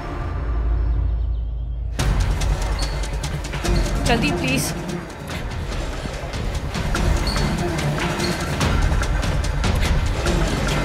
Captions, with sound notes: (stretcher moving) Hurry up, please. (stretcher moving)